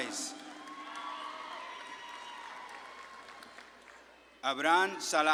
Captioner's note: audience claps and cheers